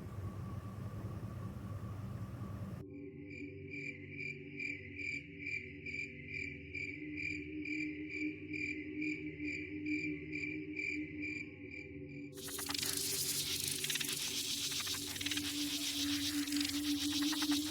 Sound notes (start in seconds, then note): 3.6 insects chirping; 12.4 crickets chirping; 12.4 insects buzzing